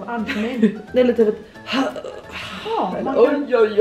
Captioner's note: gasps